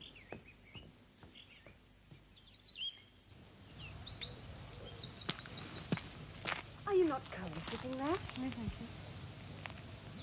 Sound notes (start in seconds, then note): 3.2 birdsong